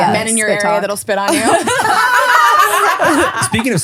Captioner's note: laughing